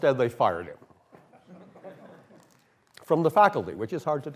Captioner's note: laughter